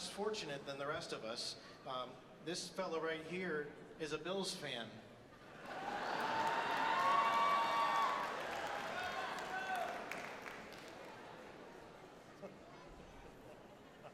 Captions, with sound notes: who are less fortunate than the rest of us. This fellow right here is a Bills fan. (audience laughs and cheers)